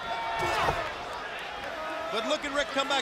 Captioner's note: crowd chatter